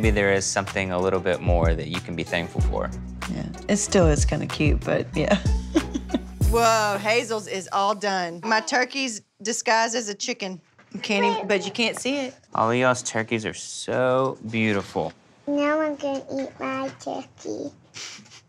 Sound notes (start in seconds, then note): 5.3 laughs